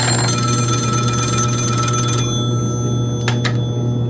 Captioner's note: bell ringing; phone ringing